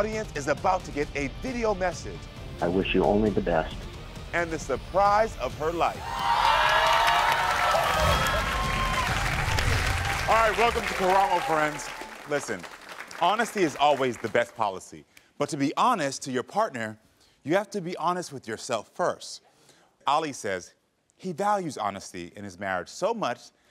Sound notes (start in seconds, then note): 5.9 audience cheering; 6.0 upbeat music